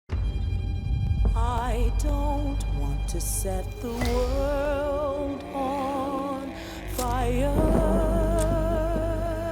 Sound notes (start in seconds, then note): 0.0 dramatic music playing; 7.1 thunder rumbles